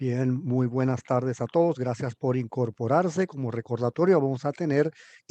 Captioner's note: speaking in foreign language